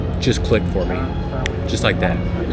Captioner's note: Thanos snap